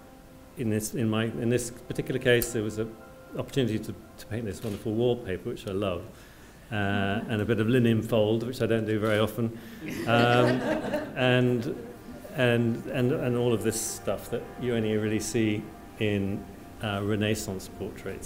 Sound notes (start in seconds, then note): 9.8 laughter